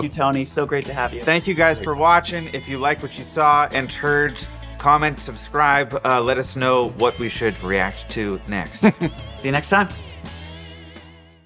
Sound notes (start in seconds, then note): 8.8 laughs